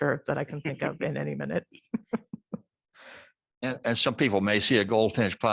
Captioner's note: laughter